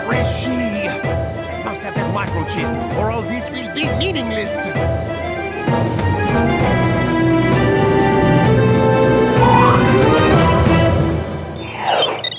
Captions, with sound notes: [laughing] Where is she? I must have that microchip, or all this will be meaningless!